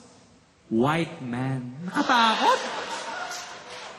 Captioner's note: laughter